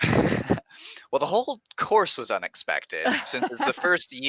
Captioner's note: laughs